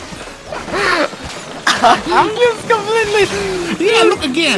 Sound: laughing

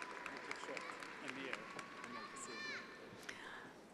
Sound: attendees applauding

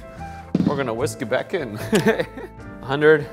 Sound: laughs

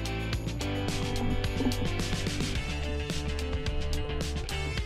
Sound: water bubbling

